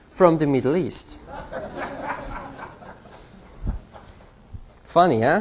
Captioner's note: laughter